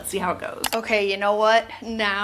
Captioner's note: mouse clicking